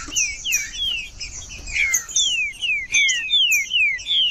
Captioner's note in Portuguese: trinca ferro cantando